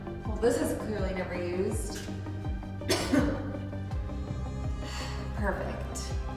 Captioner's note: coughs